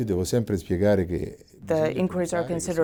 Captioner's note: speaking in Italian